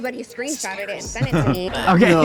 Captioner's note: Katya laughs